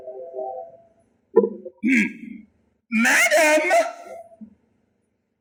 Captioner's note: grunt